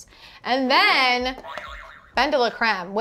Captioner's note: buzzer beeps